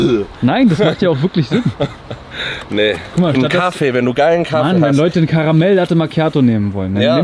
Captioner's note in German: gelächter